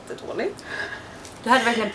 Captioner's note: laughs